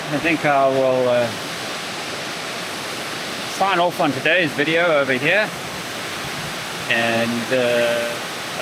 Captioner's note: water splashing